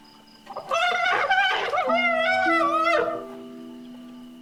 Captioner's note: trumpeting